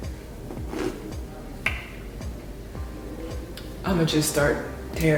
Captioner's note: slurps loudly